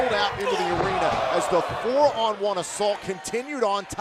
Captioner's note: cheers and boos